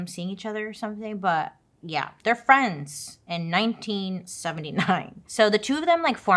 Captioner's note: laughs